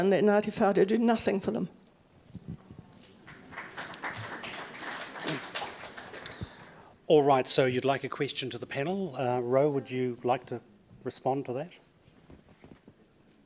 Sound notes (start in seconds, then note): 3.0 audience applauds